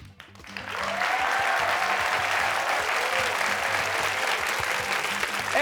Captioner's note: cheers and applause